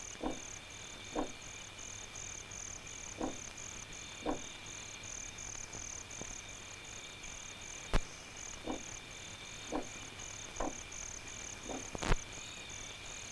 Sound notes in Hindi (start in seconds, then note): none